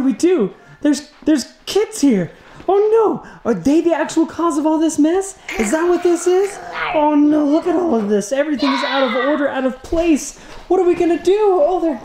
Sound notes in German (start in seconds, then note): 5.5 Kind knurrt